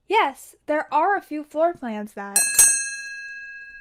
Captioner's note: bell dinging